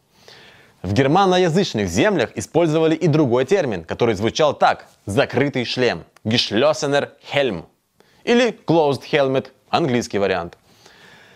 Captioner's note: German